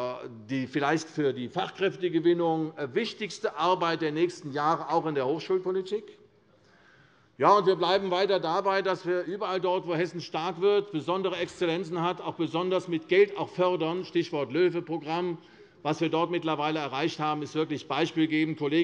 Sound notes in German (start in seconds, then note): none